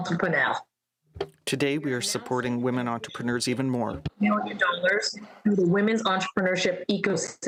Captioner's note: speaking french